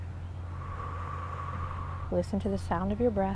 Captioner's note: blows out breath